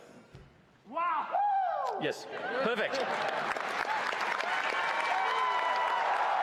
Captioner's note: applause